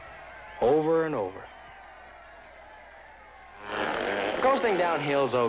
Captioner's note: applause